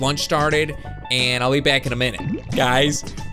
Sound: bubbles

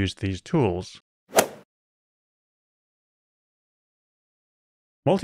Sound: golf ball hit sound

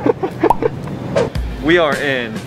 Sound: two pops

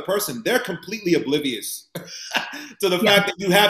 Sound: chuckles

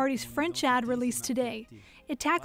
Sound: speaking French

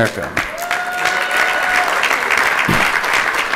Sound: applause

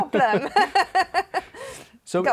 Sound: laughter

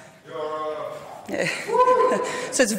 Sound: audience calls; laughs

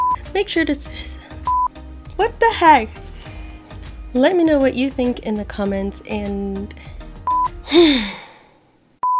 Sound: sigh

